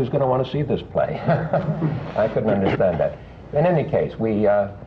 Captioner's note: laughter